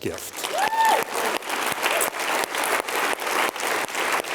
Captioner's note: cheers and applause